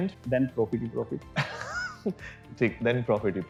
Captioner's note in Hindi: हंसते हुए